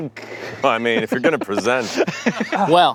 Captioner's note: laughs